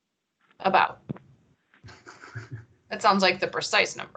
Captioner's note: chuckles